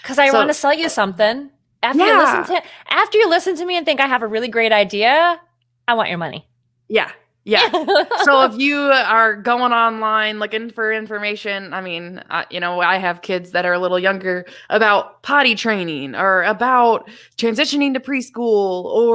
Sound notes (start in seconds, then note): 7.5 laughs